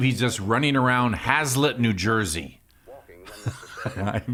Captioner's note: laughs